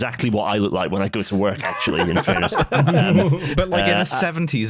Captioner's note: laughter